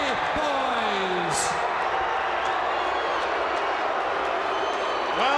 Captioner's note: crowd jeering